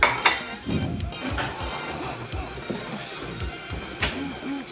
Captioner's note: kettle starts to boil